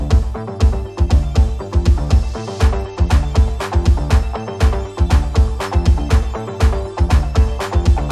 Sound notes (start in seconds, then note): 2.5 rhythmic clapping